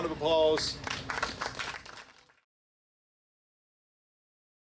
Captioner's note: audience applauding